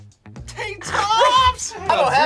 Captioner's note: both laughs